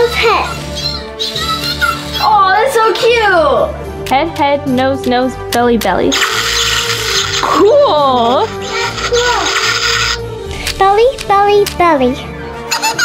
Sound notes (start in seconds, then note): 6.1 zapping; 12.8 giggling